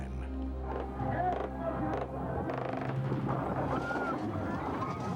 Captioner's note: guns firing